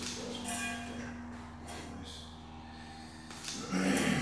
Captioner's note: engine roaring